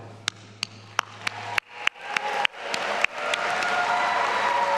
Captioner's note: all applauding and cheering